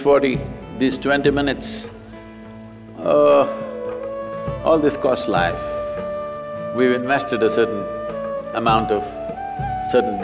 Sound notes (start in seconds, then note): none